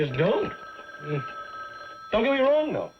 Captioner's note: phone ringing